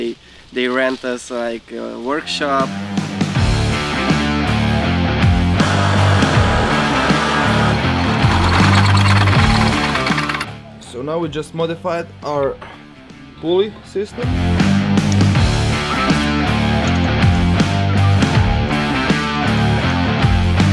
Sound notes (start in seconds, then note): 3.2 rock music; 5.7 sawing; 7.6 drilling; 14.3 rock music